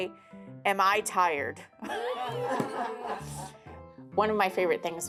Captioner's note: everyone laughs